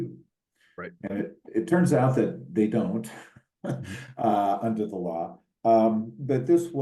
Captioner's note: laugh